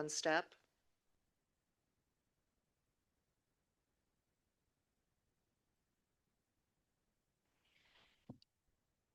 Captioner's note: silence